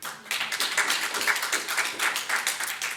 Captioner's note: audience applauds